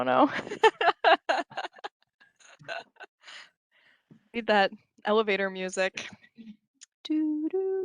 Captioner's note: laughter